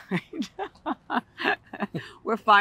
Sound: laughter

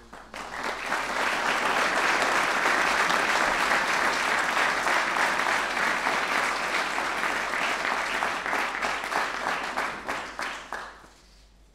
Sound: applause

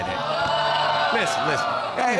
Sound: audience groaning

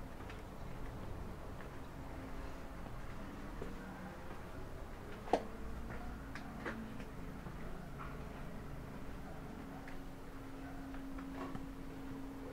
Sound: walking continues

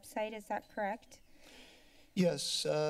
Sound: inhales

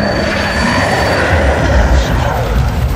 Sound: growling

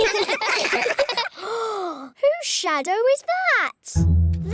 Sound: all giggle; gasps

